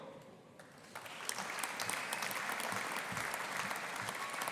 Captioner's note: audience applauding